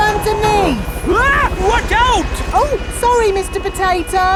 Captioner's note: screams